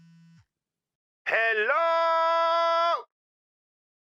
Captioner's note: yelling over the phone